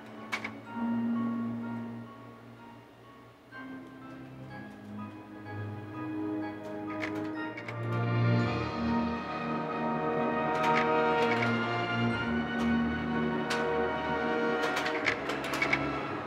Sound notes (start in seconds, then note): 8.1 dramatic music; 9.4 projector clicking